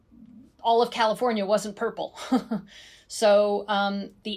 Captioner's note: chuckles